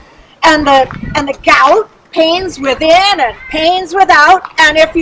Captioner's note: none